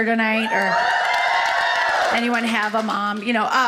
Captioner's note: audience cheers